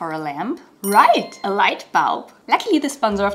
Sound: bright chime

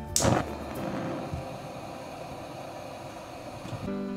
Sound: stove igniting

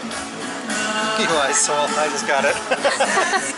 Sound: laughter

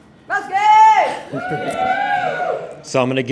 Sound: team cheering

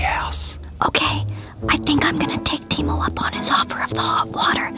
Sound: whispering

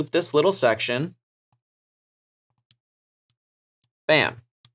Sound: mouse clicking

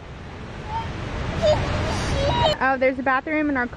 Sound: Raya language

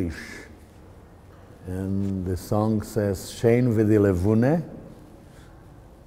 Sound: speaking Yiddish

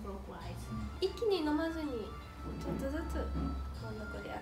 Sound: japanese

